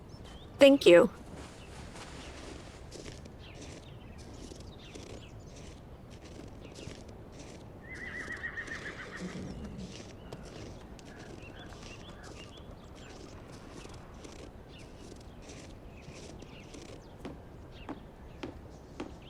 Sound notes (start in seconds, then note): 3.5 birds chirping; 7.8 horse neighing